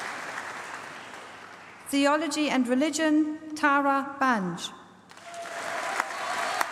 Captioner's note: applause